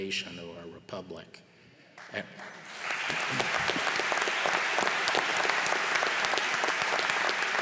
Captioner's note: applause